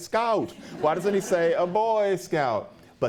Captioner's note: laughter